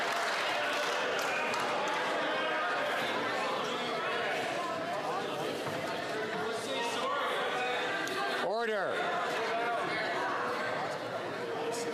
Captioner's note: applause